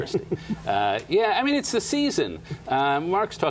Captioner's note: laughter